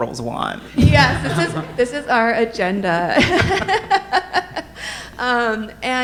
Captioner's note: laughs